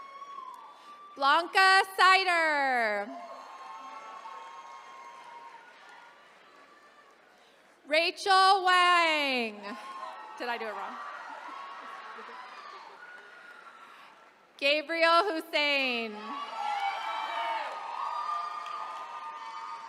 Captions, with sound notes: Blanca Seiter. (attendees cheering) Rachel Wong. (attendees cheering) Did I do it wrong? Gabriel Husain. (attendees cheering)